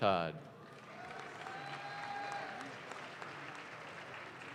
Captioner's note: audience claps